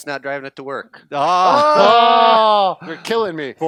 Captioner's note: cheers